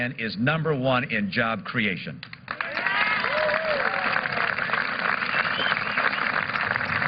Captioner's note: applause